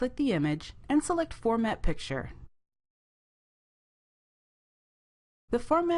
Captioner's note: brief Silence